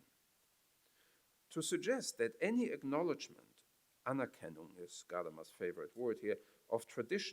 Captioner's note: foreign language